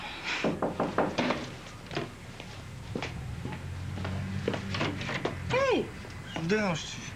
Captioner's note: On frappe à la porte